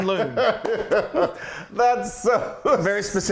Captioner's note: laugh